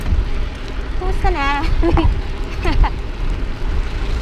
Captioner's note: laughs